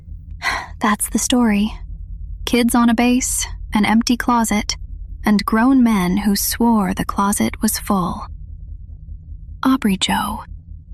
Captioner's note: sighs